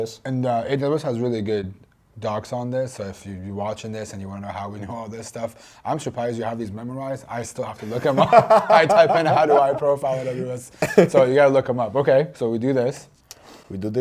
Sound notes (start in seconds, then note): 7.8 laughs